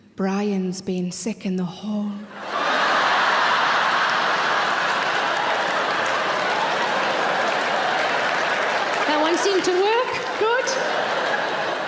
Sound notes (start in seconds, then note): 2.3 audience laughing; 2.5 audience clapping